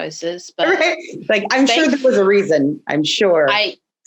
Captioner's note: laughing